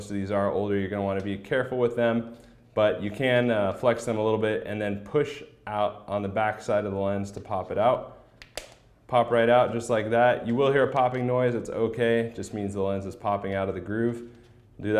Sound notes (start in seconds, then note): 8.3 popping